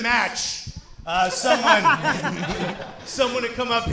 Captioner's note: men laughing